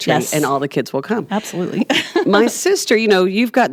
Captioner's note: laughs